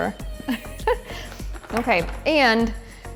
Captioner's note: giggling